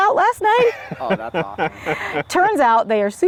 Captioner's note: laughs